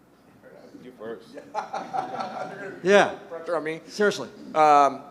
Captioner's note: everyone laughing